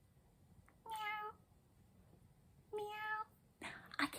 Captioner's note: meow